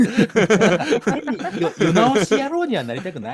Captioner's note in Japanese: 笑い